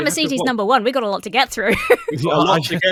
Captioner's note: laughs